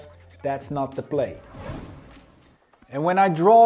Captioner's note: air whooshing